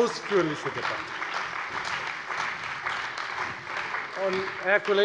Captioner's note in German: Beifall bei der FDP, der CDU und der SPD